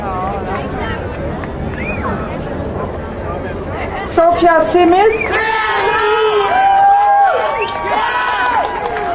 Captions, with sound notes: Sophia Simmons. (crowd cheering)